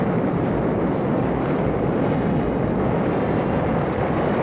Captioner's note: explosion